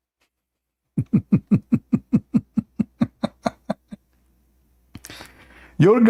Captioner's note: Ketawa